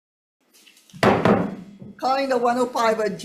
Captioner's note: gavel thudding